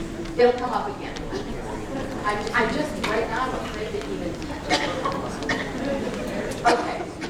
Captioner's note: frustrated muttering